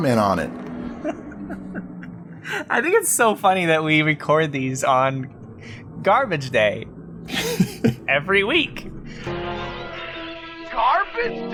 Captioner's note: laughs